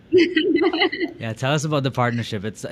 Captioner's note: laughing